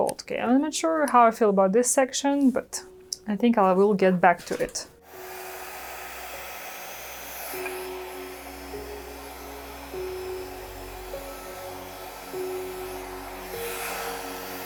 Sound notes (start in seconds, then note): 5.0 blow dryer blowing; 5.8 soft piano music